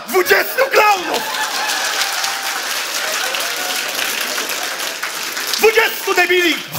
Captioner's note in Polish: oklaski publiczności